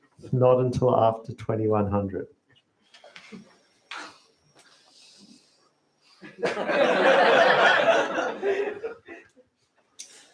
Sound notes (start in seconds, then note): 6.2 laughter